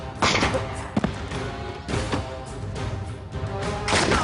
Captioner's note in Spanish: Disparo